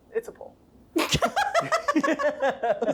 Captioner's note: laughing